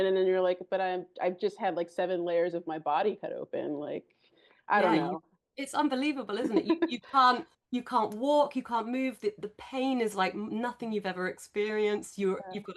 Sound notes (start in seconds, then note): 6.4 laughs